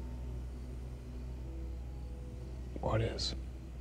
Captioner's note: crickets chirping